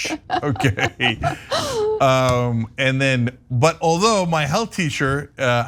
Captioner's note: laugh